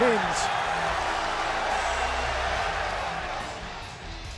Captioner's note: fans cheering